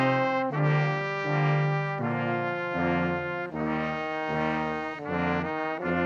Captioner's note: none